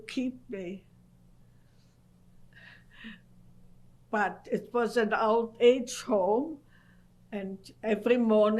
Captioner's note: pauses for 3 seconds